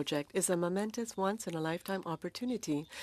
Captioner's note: speaking French